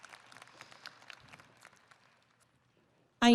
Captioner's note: audience applauding